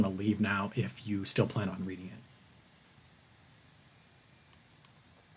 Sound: pause

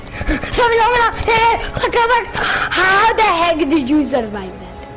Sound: in meme voice

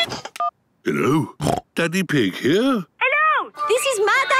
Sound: phone ringing; snorting

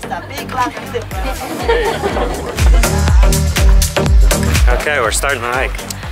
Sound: people laughing

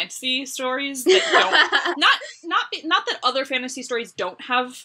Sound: laughs

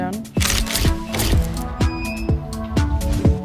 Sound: camera clicking

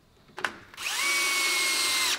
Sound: drilling noise

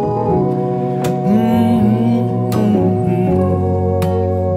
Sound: humming

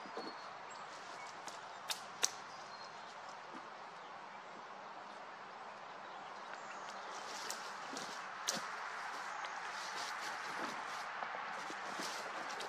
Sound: foosteps in leaves, chickadees chirping, a car passing; branches crackling as the car gets farther

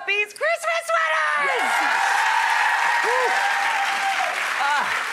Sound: audience applauding

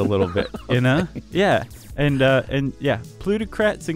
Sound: laughing

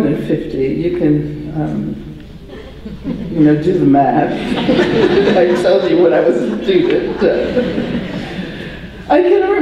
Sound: audience laughter

